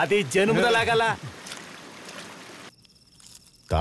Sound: water Falls Sound

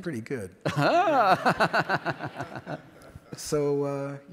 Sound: laughs

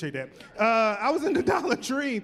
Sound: chuckling

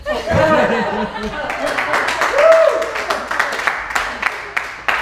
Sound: everyone laughing and clapping

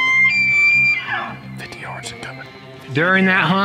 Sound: whispering

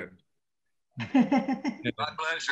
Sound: laughs

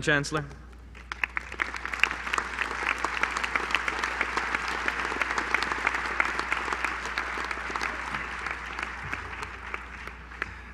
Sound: applause

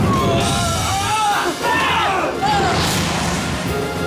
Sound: screaming

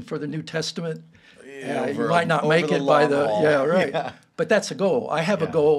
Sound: both chattering

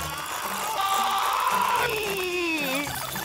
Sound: screaming

